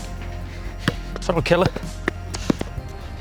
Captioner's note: ball bounces